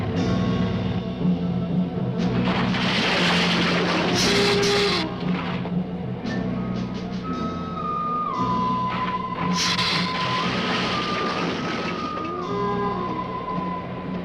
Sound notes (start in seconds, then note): 2.1 bridge rattling; 3.4 lizard hissing; 9.5 lizard hissing